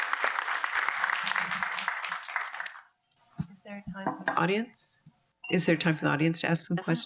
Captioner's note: audience applauds